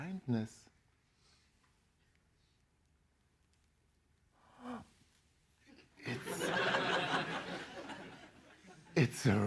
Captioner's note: laughter